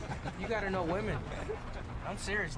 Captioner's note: laughter